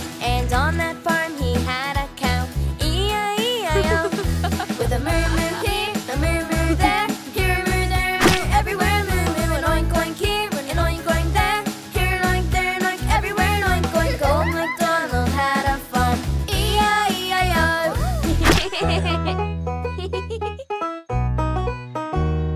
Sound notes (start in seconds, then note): 19.8 laughing